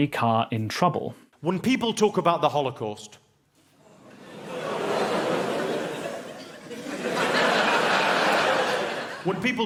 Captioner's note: nervous laughter